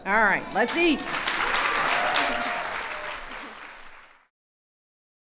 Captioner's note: applause